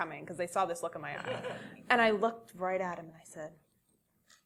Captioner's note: laugh